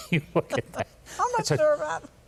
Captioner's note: laughs